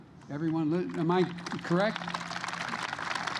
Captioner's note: applause